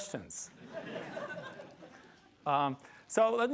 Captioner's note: laughter